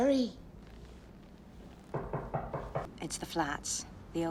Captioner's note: knocking on door